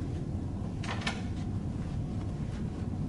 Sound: sound of door opening

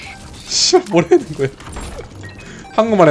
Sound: laughs

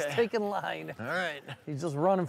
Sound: laughs

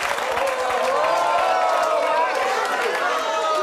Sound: audience jeering

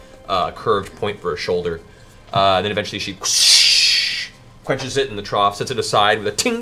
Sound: shhh

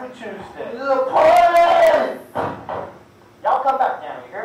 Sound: yelling

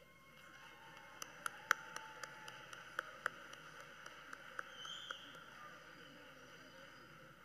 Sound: cheers and Applause

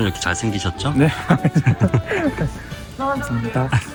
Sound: hahahahaha

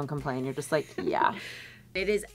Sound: giggles

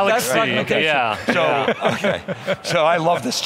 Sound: laughing

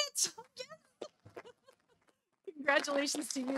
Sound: audience applauding

